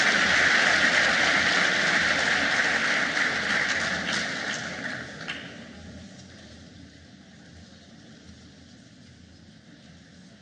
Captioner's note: cheers and applause